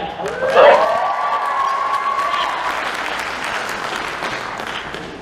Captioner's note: applause